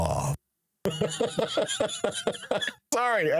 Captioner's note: laughing